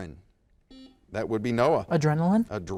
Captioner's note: buzzer dings